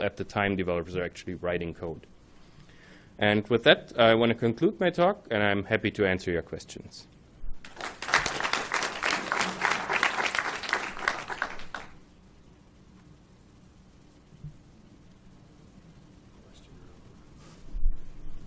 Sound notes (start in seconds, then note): 7.6 applause